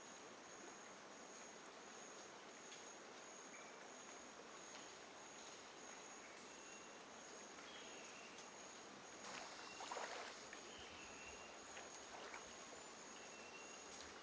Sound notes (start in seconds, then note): 9.3 water sloshing